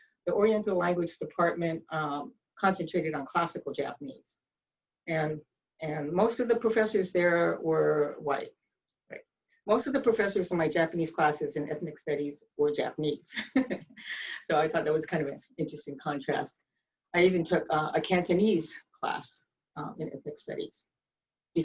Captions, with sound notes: The Oriental Language Department concentrated on classical Japanese, and most of the professors there were white, right. Most of the professors in my Japanese classes in Ethnic Studies were Japanese. (chuckles) So I thought that was kind of an interesting contrast. I even took a Cantonese class in Ethnic Studies,